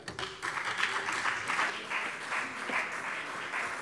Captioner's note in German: Beifall BÜNDNIS 90/DIE GRÜNEN und CDU